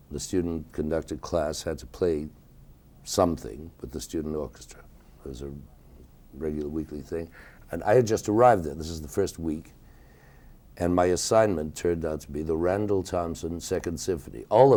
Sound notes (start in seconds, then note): none